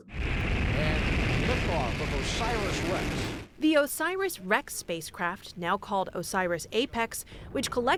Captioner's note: voice-over